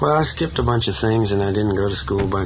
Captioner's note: voiceover